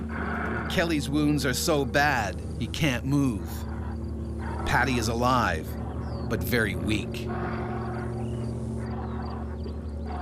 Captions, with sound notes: - [Voiceover] Kelly's wounds are so bad he can't move. Patty is alive, but very weak.